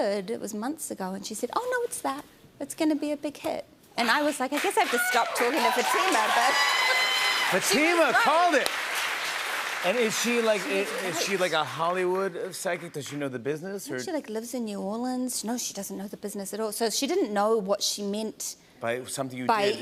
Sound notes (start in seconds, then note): 4.6 cheers and applause